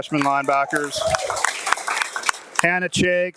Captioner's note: audience applauding and cheering